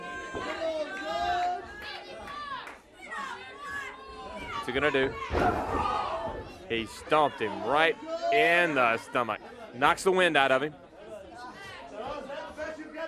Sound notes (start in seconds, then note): 5.4 crowd chatter